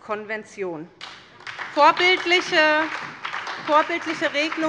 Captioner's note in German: Beifall bei Abgeordneten